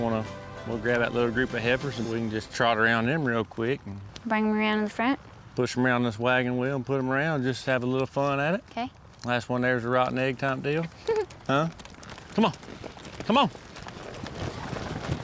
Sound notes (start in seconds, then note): 10.9 giggles